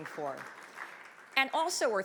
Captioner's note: audience clapping